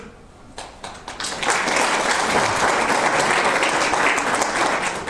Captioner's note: audience applause